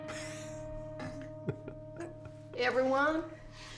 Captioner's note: giggling